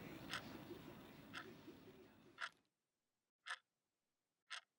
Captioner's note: scratching